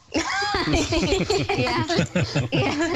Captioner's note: laughs